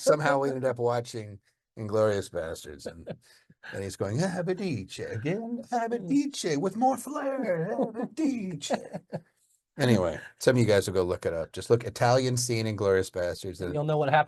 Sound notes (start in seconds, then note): 4.3 speaks in foreign language